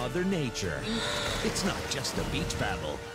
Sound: gasping

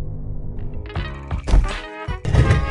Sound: bag drops to the floor; stone moving across floor noises

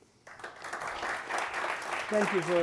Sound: audience applauding

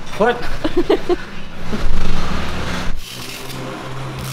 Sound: laughs

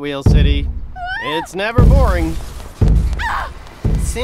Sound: woman screaming

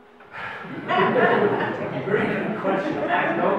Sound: audience laughs

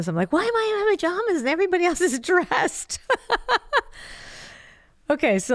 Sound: laughs

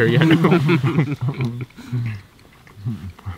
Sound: all chuckling

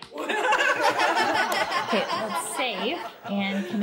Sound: laughter

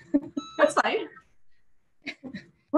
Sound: beep

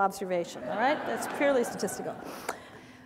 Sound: audience laughter

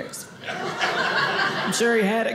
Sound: audience laughing

